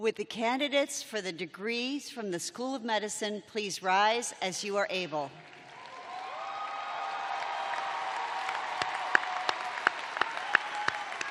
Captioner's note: cheering